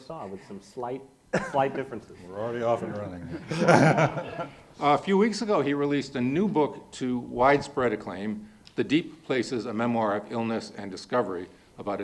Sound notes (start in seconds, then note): 3.2 laughs